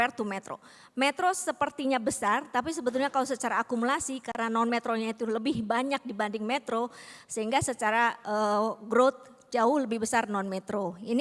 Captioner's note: non-english speech